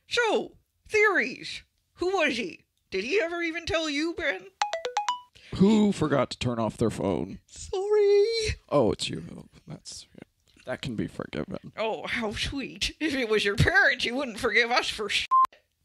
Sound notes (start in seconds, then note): 4.6 cell phone text alert